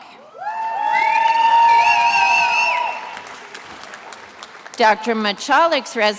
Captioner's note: attendees applauding and cheering